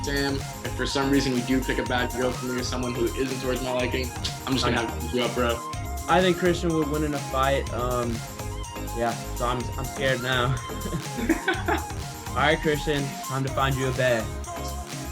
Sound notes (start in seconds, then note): 10.6 both laugh